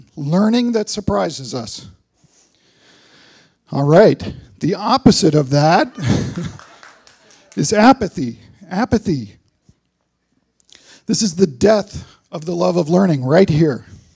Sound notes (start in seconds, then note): 5.7 laughter; 6.0 applause